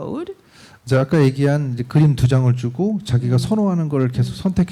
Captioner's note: speaking korean